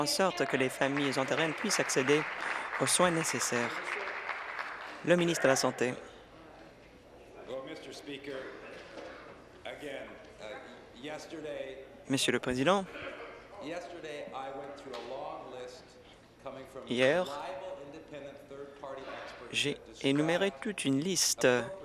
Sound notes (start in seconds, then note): 5.9 applause